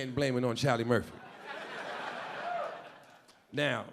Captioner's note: audience laughing